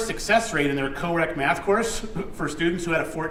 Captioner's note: chuckles